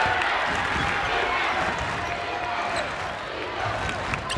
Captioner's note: crowd